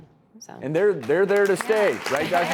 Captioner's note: audience clapping